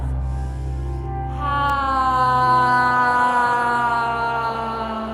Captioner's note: all inhale and exhale audibly